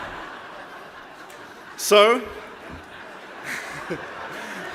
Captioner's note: laughter